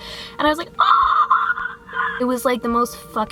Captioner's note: more /dinosaur hybrid noises